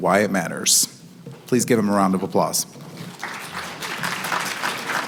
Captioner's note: applause